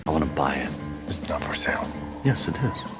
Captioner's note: whispers